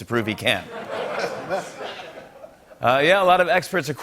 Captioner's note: laughter